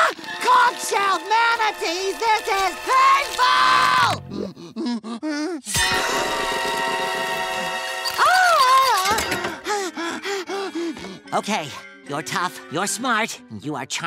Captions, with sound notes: Conch-shelled manatees, this is painful! [panting] [screaming] [panting] Okay. You're tough. You're smart and you are charming.